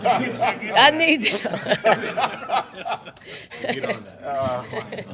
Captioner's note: everyone laughs